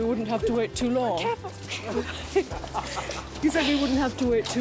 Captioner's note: all chuckling